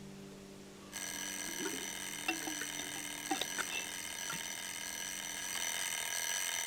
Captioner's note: alarm ringing